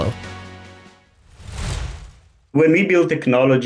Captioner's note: logo whooshing